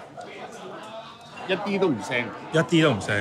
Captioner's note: speaks in foreign language